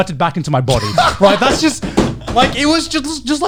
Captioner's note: laughing